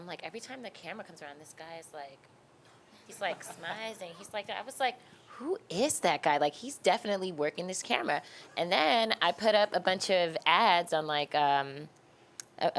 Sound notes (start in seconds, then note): 3.0 laughing